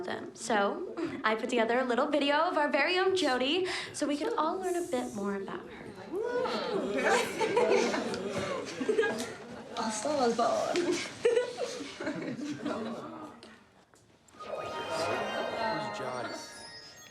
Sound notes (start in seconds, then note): 6.7 laughter